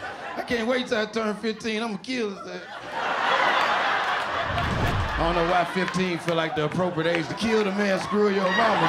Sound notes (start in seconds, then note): 2.2 laughter